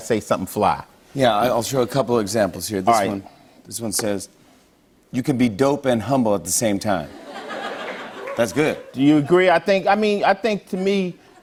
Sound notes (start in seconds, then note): 7.1 laughter